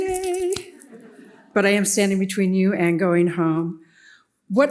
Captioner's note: audience laughs